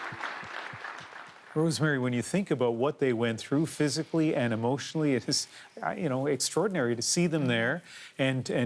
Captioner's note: applause